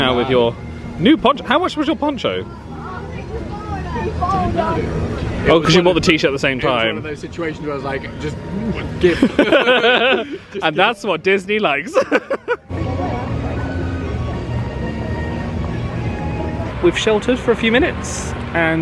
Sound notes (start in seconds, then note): 9.0 laughing; 12.8 laughs; 13.3 peaceful music